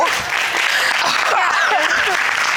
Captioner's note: audience applauding